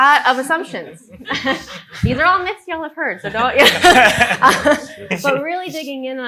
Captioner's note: laughs